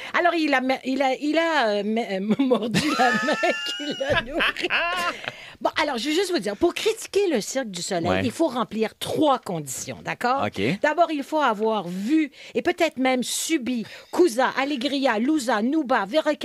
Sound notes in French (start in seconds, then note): 2.3 rires